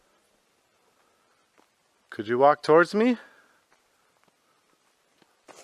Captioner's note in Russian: Неизвестные шаги